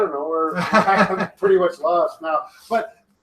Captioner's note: chuckles